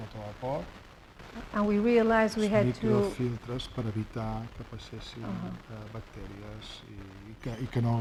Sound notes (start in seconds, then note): 3.6 speaking spanish